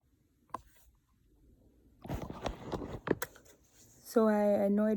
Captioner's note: camera being set up